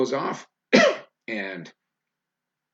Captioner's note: coughs loudly